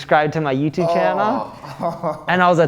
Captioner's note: laughs